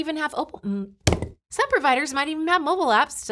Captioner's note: palms thud; goblet clatters